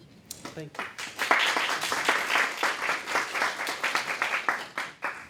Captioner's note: applause